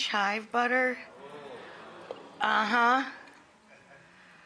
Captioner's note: audience chattering